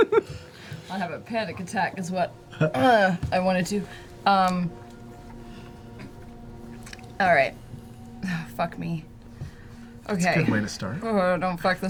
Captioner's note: laughter; clears throat